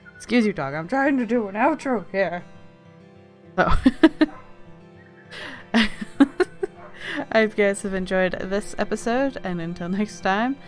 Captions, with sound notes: Excuse you dog, I'm trying to do an outro here! So *bark barks* I hope you guys have enjoyed this episode *laughing* and until next time